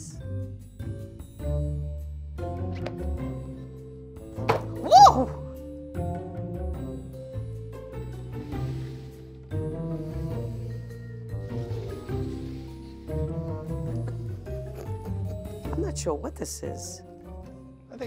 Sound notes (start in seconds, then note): 0.1 suspenseful music; 4.4 book thuds; 4.8 whines; 6.1 suspenseful music